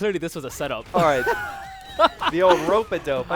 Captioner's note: laughter